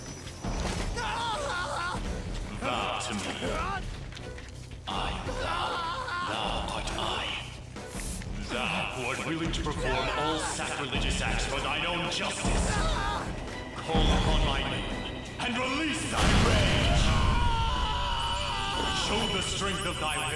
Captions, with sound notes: Gahhhh! (grunts) GAAAAAHHHHH!